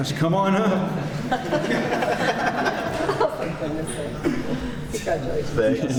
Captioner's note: laughter